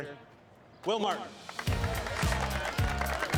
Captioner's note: applauding and cheering